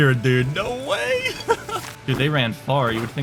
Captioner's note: laughing